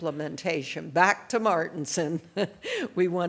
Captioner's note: laughs